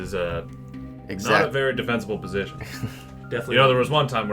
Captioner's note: chuckles ruefully